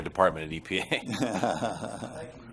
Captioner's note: laughter